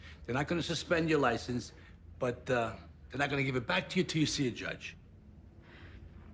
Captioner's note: none